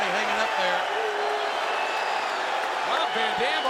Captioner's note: audience cheering